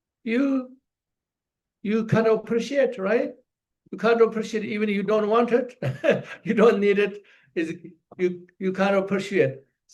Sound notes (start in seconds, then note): 5.7 laughs